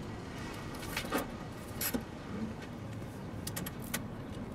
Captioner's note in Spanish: ruidos al estacionarse